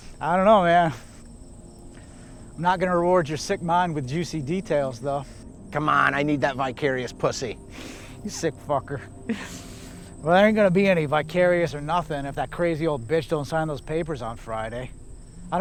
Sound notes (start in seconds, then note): 9.2 laughs